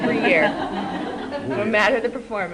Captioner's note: laughter